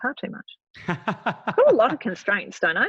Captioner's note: laughing